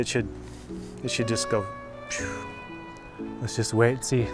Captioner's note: phew